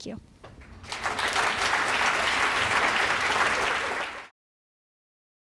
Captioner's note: applause